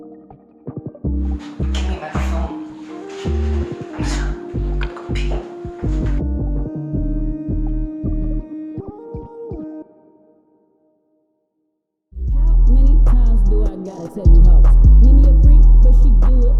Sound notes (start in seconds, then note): 2.6 huffs